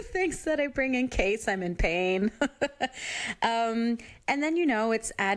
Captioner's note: chuckles